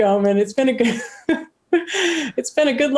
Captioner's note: laughs